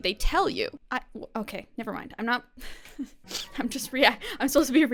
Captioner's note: chuckles